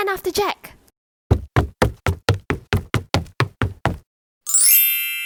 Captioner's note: footsteps thumping